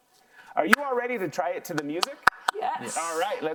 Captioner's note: clapping; claps